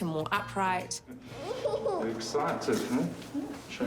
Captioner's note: giggles